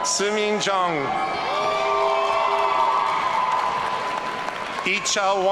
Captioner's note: audience cheering